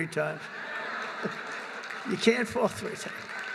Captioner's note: laughter